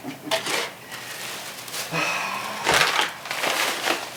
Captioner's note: paper crackling